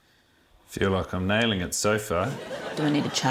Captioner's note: laughter